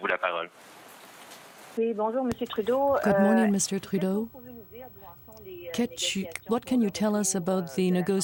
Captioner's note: speaking french